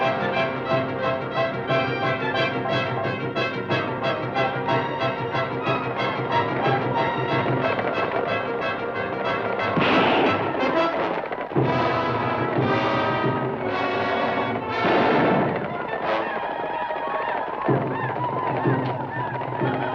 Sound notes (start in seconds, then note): 9.7 gun fires; 14.6 gun fires; 16.4 native Americans howl